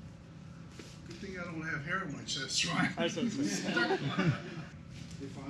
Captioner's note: laughter